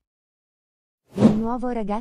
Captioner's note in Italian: FX - Whoosh - 03